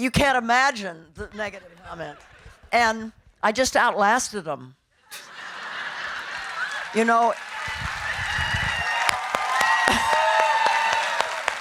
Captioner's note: audience laughing and cheering